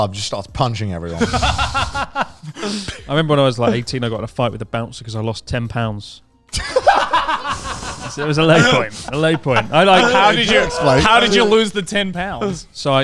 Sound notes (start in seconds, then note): 1.1 laughing loudly; 6.5 all laughing loudly